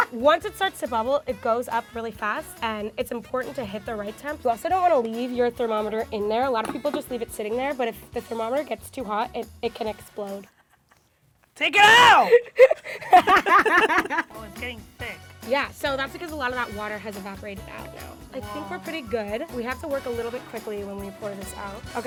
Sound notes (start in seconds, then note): 11.8 yelling; 12.0 both laugh